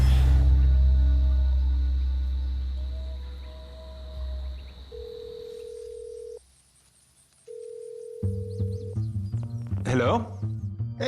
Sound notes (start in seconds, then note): 0.2 sounds of nature; 4.9 telephone ringing